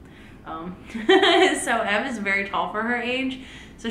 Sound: laughs

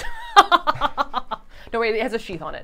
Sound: laughing

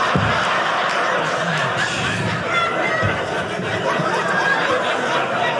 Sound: audience laughing

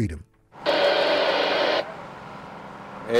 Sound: radio static

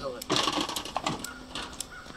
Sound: crashing

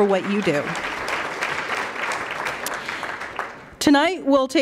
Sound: applause

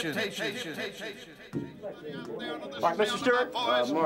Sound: echo

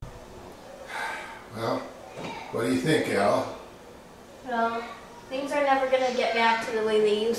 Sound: sigh

